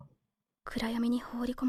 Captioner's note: Korean